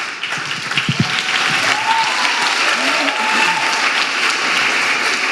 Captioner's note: audience applauding and cheering